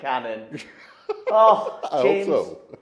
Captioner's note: laughs